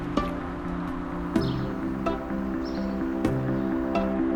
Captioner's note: birdsong